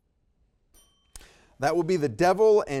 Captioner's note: timer dings